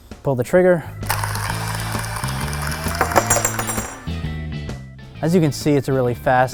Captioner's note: tool cutting pipe